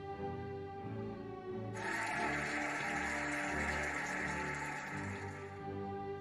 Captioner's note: cheering and applauding